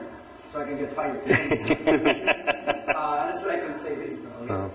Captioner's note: laughter